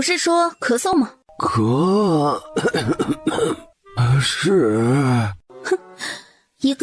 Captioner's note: cough